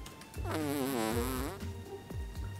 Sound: farts

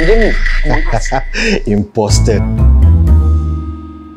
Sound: laugh in evil

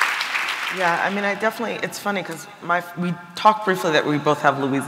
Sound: applause

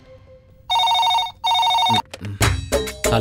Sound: telephone ringing

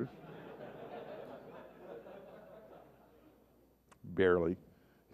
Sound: laughter

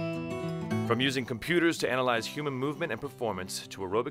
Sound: voiceover

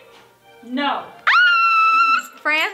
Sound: screaming

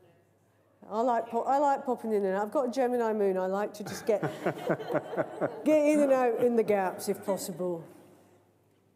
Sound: laughter

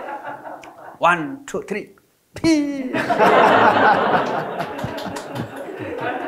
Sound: audience laughing

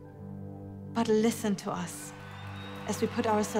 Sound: cheering

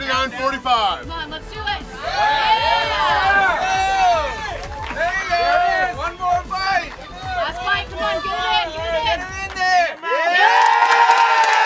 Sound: cheering & Clapping

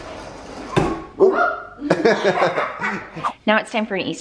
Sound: laughs

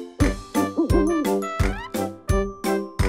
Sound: hooting

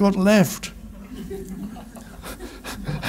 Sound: chuckles; audience laughs

